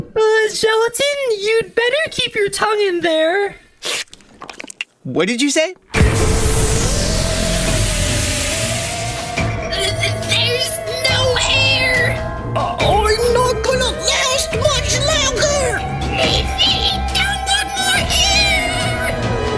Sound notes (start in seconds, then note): 3.8 sucking sound, as he retracts his tongue; 5.9 theremin continues; 5.9 large sucking sound effect plays as air is sucked from the spaceship